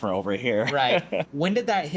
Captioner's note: laughs